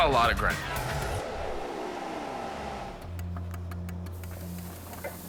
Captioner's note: whirring